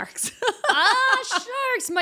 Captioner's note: laughing